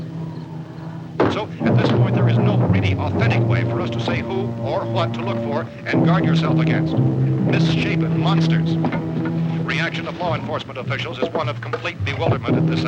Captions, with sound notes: [radio resumes] So at this point there is no really authentic way for us to say who or what to look for and guard yourself against Misshapen monsters, reaction of law enforcement officials is complete bewilderment